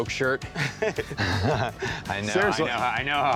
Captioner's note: laughs